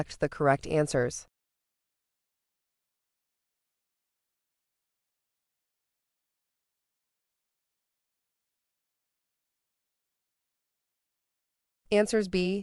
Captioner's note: no audio